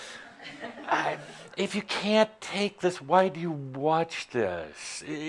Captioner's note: a few chuckles